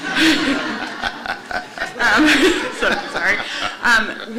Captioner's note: laughter